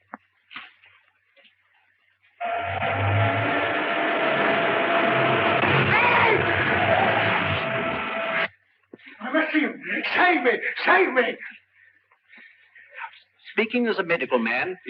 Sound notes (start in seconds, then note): 2.4 engine revving; 2.4 tires screeching